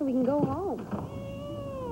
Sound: crying

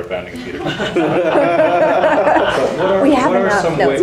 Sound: people laughing

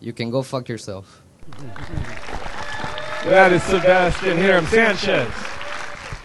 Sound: applause

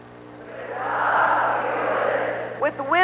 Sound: crowd repeats

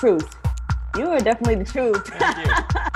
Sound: laughs

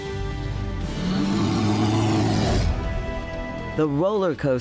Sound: bear growls

